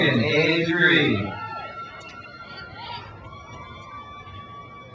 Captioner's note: crowd cheers